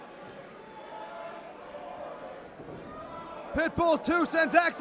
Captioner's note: crowd chatter